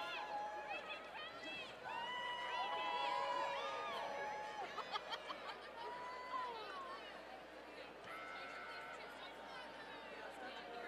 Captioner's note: applause